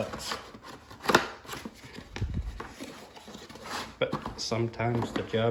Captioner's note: cardboard sounds